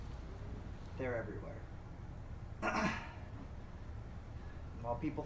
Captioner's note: clears throat